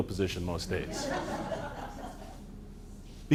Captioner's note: laughter